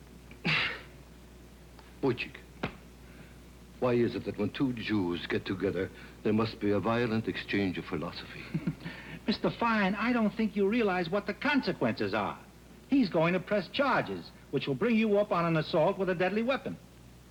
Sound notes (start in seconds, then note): 0.3 groan; 8.3 chuckles